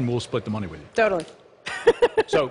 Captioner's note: laughter